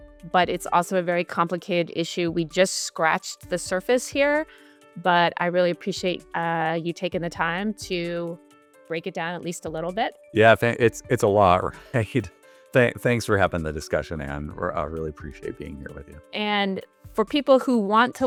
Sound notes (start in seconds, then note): 11.9 chuckles